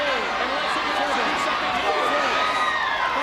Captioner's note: audience cheering